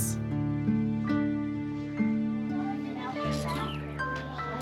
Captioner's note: children chattering